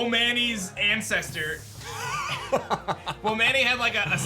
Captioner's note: chuckles